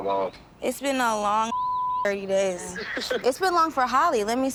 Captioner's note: beep